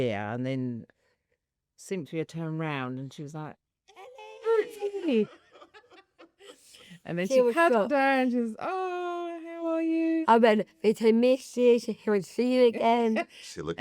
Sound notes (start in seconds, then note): 4.8 laughs